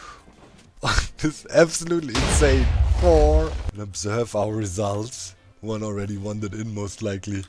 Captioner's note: explosion